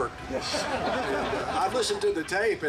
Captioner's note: group laughing